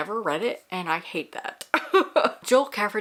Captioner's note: laughs